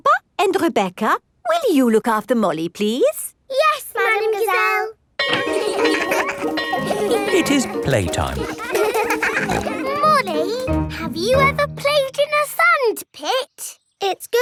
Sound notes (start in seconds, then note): 5.2 bell ringing; 5.4 laughing; 8.4 peppa snorting